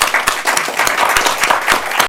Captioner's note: applause